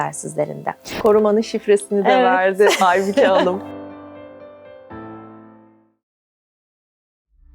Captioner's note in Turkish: kahkaha